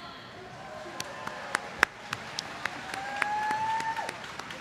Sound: applause

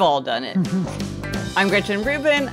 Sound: chuckles

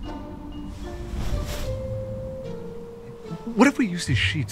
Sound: pensive music; wind howling; bedding rustling

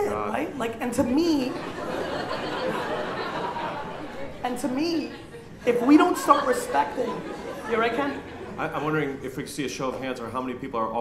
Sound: laughter

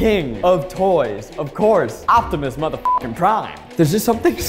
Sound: beeps

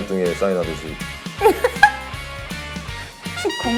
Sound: burst out in laughter

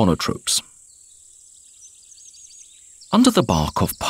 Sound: sounds of nature

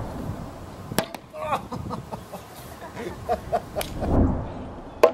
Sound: groaning

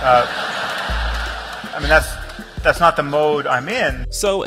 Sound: audience laughter

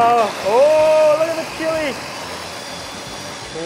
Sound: whirring

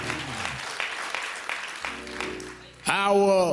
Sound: applause

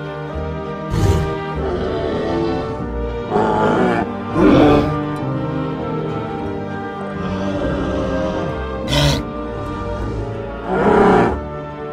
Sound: triceratops growling

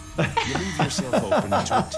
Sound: people laughing

